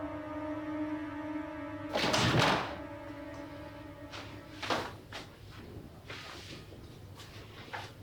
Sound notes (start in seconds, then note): 1.9 doors open; 4.0 feet shuffling